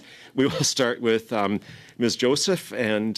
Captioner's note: laughter